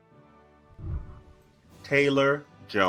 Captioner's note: whooshing